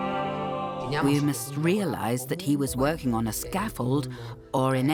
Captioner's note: in Italian